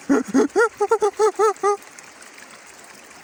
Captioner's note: makes donkey sound